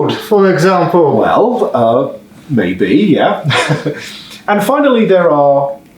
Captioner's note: laughing